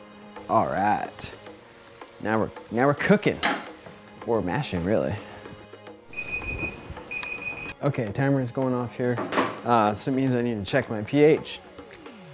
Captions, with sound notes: all right now we're now we're cooking or mashing really *timer beeping* okay timer's going off here so it means I need to check my pH